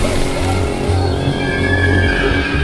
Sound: cries of panic

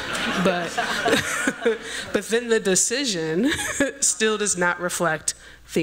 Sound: laughs; laughter

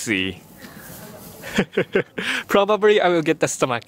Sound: chuckles

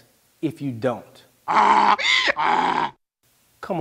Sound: jackass brays

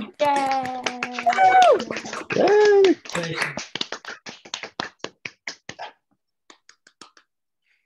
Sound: applause

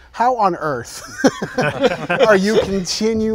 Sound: all chuckling

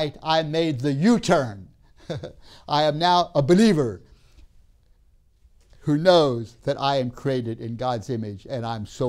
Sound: laughs

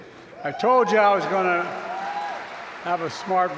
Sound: applause

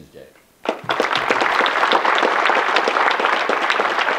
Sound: audience clapping

